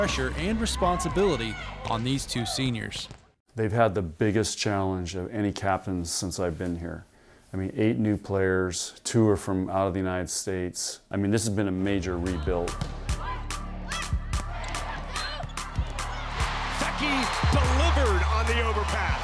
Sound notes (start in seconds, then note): 12.3 crowd cheering; 13.3 girls grunting